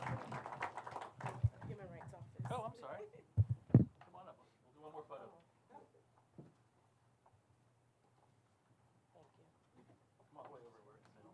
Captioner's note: applause